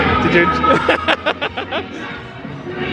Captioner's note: laughing